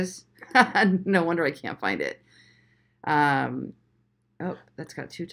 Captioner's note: chuckles